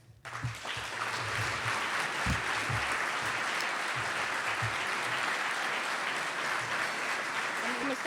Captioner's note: applause